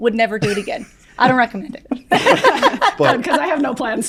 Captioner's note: all laugh